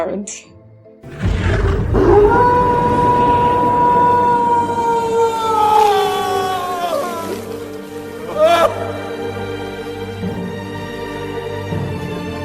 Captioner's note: AWOOOOO morphs into human scream